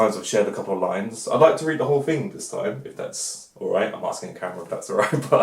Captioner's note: laughs